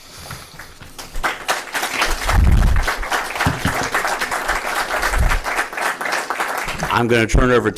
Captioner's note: applause